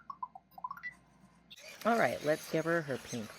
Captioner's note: ERS-111 cheerfully beeping; grinding noises